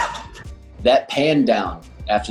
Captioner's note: laughing